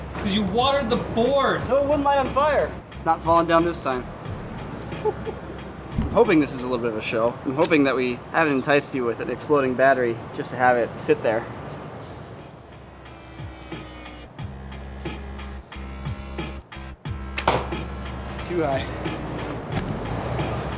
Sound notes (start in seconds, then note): 17.3 arrow impacts